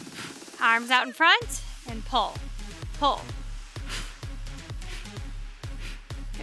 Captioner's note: exhaling deeply; exhaling deeply